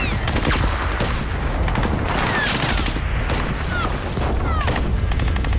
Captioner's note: rapid gunfire